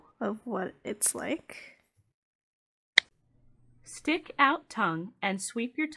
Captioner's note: automated voice